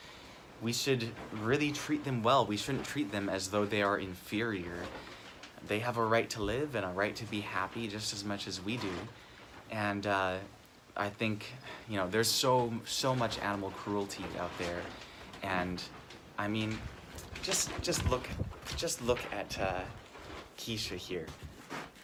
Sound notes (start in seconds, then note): 11.2 sighs